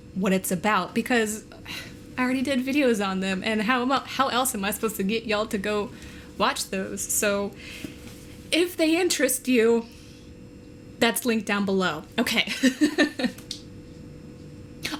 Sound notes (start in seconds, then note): 12.6 laughs